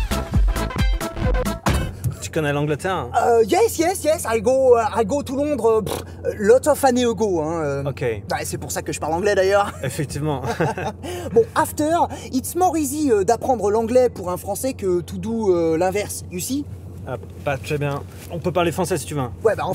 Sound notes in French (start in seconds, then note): 10.3 rires